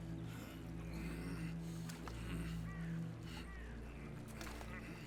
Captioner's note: Benny groaning